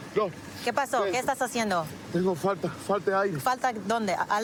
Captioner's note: speaking spanish